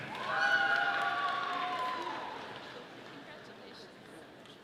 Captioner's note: audience applauding